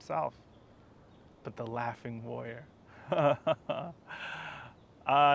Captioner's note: laughs delighted